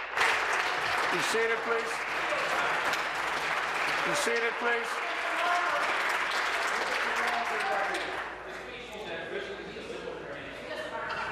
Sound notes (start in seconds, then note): 0.0 applause